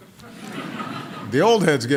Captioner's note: laughter